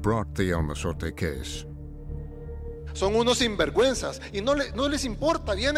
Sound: speaking Spanish

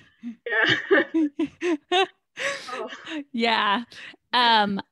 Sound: laughs

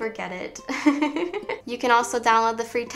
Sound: laughs

